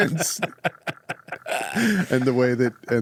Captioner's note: laughter